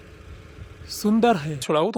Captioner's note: Hindi